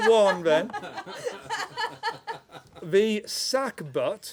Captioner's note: laughter